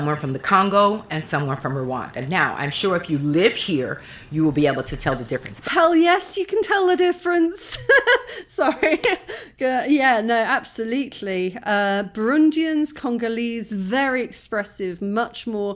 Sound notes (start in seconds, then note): 7.6 laughing